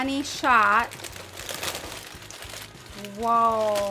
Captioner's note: paper crinkling